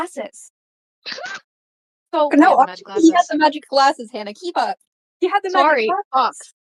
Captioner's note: group laughing